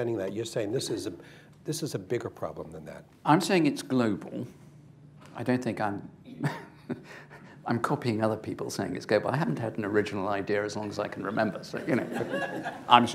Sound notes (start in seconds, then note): 6.3 chuckles